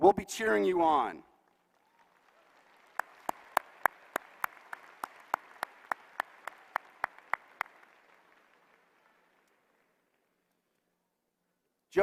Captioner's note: applause